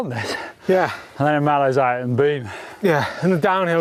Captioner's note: mutters